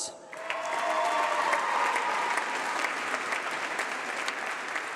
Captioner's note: applause